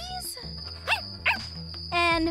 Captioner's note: dog barks